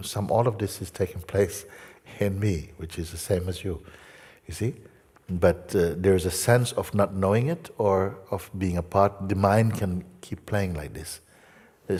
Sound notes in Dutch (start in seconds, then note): none